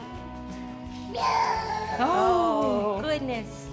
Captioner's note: babbles